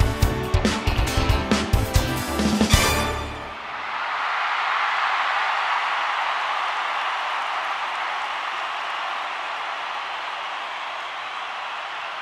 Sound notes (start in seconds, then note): 3.4 crowd cheering